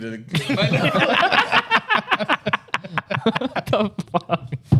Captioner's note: laughing